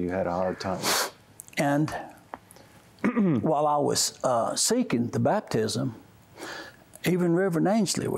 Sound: sniffs

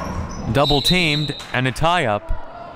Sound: whistle

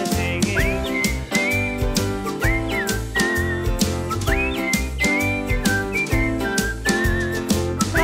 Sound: whistling

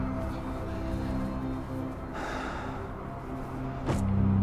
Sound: slow deep breaths

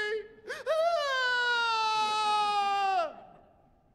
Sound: fake crying

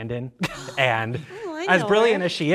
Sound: gasping

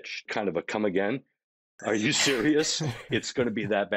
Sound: chuckling

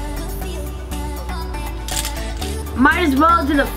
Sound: clicking sounds

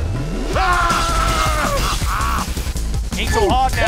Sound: Blu Spy Laughing and Red Engineer Screaming

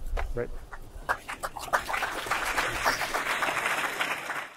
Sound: audience applauds

